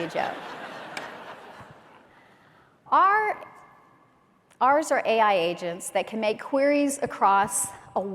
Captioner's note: laughter